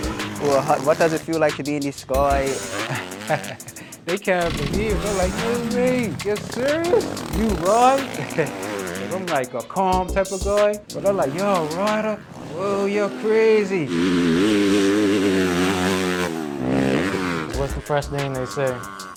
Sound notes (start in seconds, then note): 2.4 laughs; 13.0 rap instrumental stops; 17.4 rap instrumental